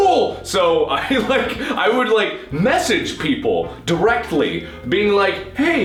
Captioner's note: high pitched voice; laughing